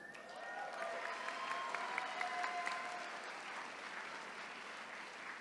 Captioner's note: attendees cheering